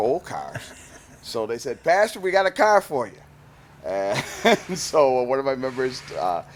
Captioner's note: laughs